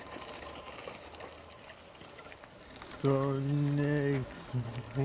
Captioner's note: wheelchair rolls